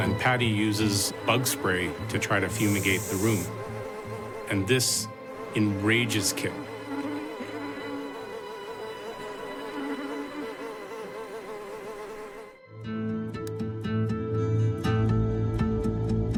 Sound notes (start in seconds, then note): 0.0 flies buzzing; 7.0 suspenseful music; 8.3 flies buzzing; 11.9 dramatic music